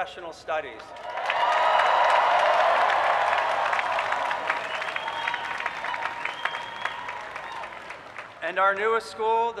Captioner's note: cheering